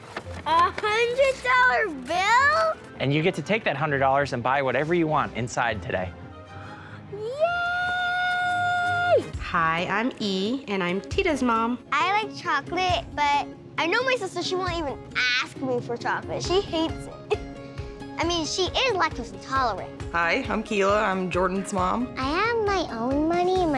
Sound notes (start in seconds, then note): 6.5 gasps; 17.4 chuckles